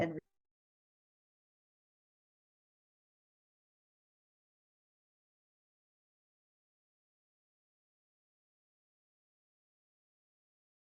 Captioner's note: audio cuts out